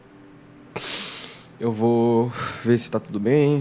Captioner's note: inhales